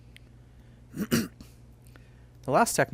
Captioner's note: clears throat